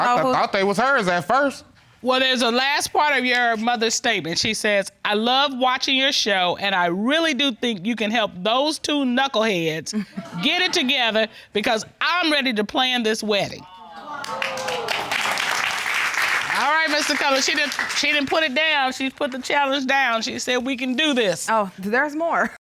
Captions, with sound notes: I thought they was hers at first. Well, there's a last part of your mother's statement. She says, "I love watching your show and I really do think you can help those two knuckleheads get it together, because I'm ready to plan this wedding." [applause] All right, Mr. Cutler, she didn't-- she didn't put it down. She's put the challenge down. -She said we can do this. -Oh, there's more.